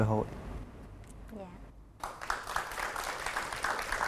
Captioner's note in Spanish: Aplauso